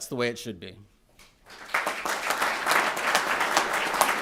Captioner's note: applause